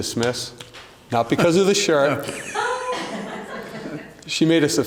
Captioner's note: laughter